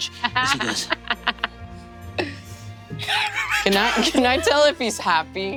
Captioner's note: players laughing